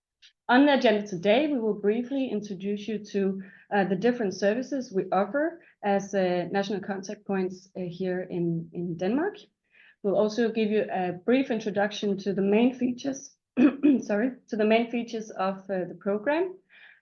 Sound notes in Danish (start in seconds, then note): 13.6 clears throat